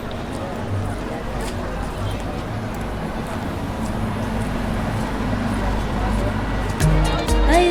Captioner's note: street noise and faint music playing